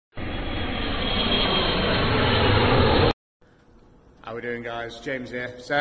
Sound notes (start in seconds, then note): 0.1 jet engine roaring